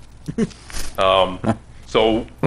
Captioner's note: chuckles